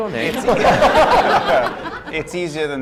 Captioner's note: laughter